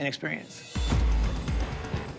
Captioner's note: hammer pounding